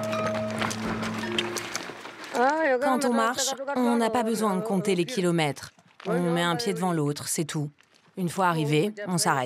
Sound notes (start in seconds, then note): 2.6 Herero audio speaking